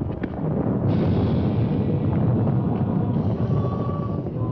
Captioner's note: thunder rumbling